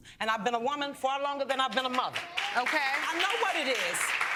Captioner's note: audience applauding